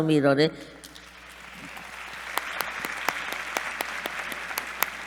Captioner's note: applause